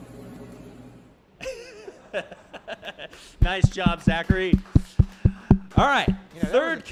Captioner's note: laughs